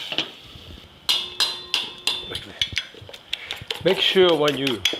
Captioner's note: fork clanging